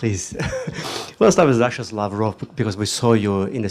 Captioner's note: laughter